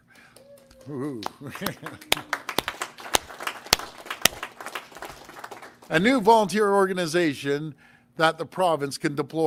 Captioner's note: applause